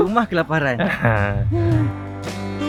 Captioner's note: giggle; background music